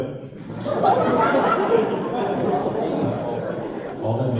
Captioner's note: laughter